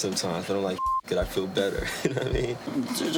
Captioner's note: beep